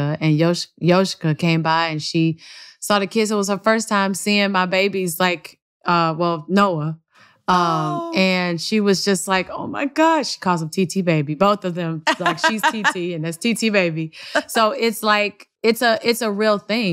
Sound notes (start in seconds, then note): 12.0 laughter